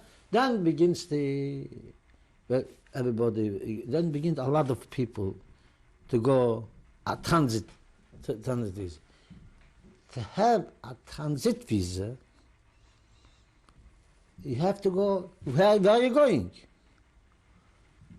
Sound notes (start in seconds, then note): 12.2 pauses for 3 seconds